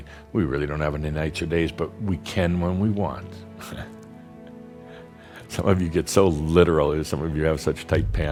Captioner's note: Adamus chuckles